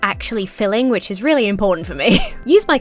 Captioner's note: chuckles